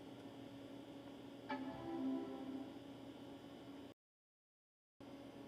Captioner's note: computer chimes softly